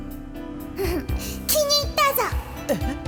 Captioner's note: chuckle